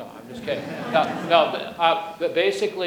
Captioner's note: audience laughs